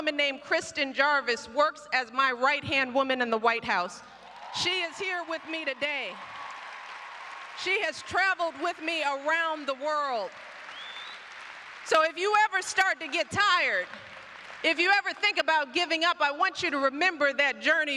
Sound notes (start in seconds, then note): 6.3 applause